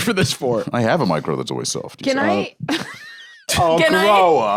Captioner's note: laughs